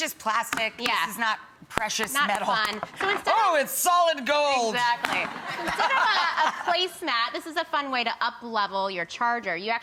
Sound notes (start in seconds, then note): 5.3 laughs